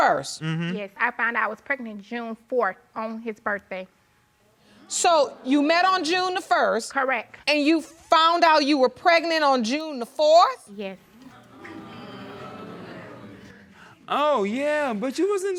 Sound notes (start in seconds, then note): 11.2 audience disapproving